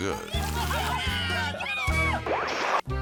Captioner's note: onlookers laughing